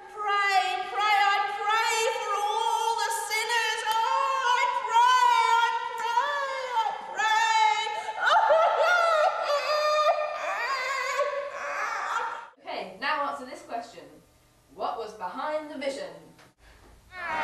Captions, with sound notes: Pray pray I pray for all the sinners Oh I pray I pray I pray [cries] - Okay now answer this question. What was behind the vision?